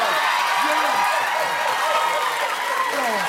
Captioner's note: applause